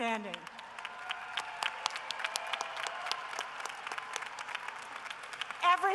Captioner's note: cheering and applause